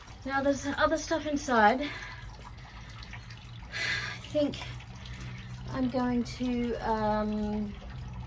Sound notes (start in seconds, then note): 3.7 sighs